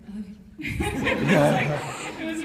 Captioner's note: laughs